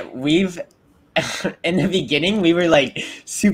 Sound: chuckles

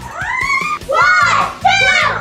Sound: screams and taps blindfold

